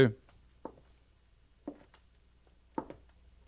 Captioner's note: knocking